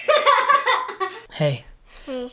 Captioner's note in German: Gekicher